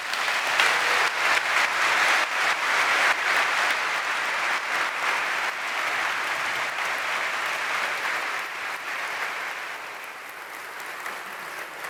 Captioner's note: applause